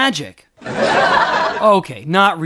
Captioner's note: laughter